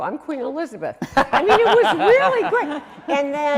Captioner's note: laughing